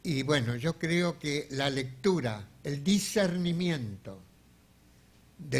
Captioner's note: speaking in a foreign language